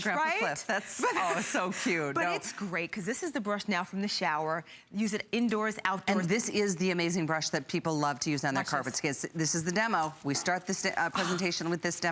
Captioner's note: laughter; laughter